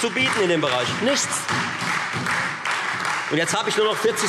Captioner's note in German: Beifall Freie Demokraten und SPD